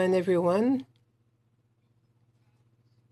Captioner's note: speaking French